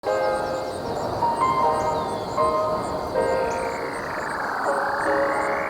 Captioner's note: birds chirping; gentle music